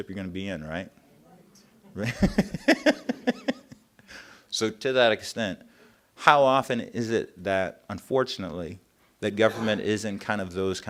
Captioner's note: reaction from the audience